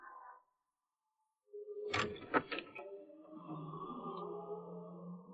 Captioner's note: door closes